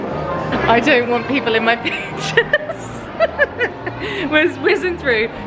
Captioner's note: laughs